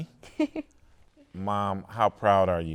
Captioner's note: laughing